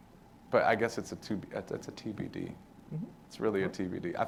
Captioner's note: none